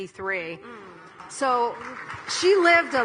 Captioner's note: audience applauding